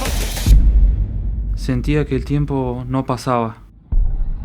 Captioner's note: in Spanish